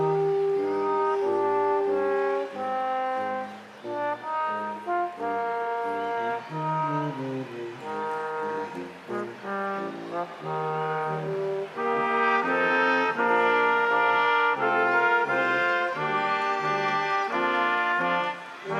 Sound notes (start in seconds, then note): 3.9 crowd applauding; 3.9 instrumental music continues